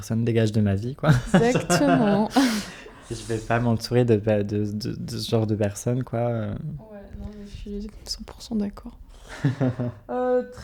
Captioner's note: laughs